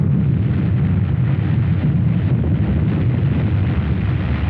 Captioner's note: deep explosive rumbling